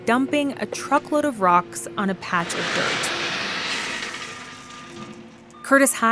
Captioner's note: beeping of a truck backing up, crash of dumping rocks